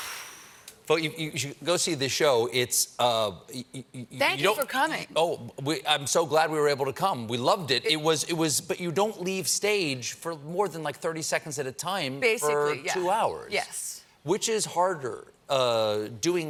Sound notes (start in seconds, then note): none